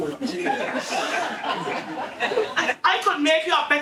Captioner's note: audience laughing